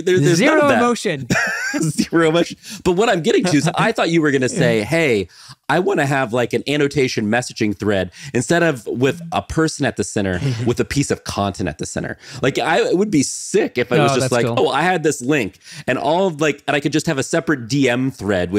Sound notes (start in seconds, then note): 1.3 chuckling